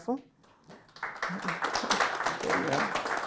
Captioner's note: audience applauding